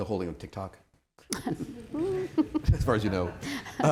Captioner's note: laughter